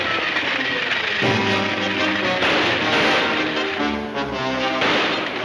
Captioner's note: gunshots banging